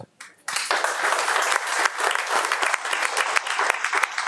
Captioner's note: attendees clapping